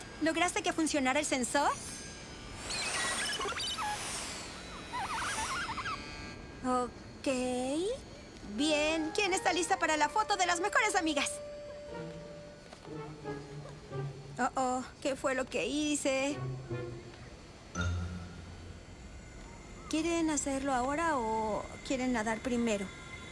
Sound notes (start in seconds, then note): 2.4 beeping